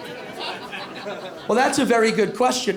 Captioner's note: light laughter